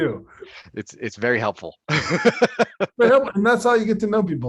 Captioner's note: laughing